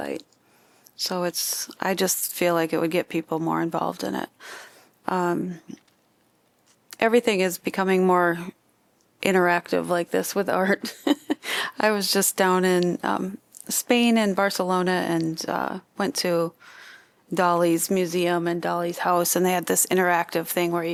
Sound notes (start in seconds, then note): 10.8 laughter